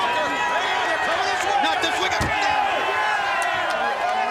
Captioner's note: crowd cheering